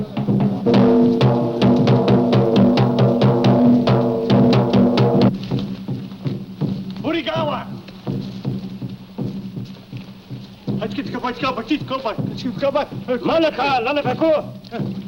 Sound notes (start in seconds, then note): 0.1 drums thudding; 7.0 shouting in foreign language